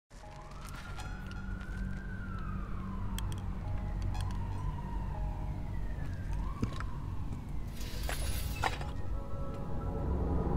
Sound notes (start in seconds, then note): 0.2 siren's wailing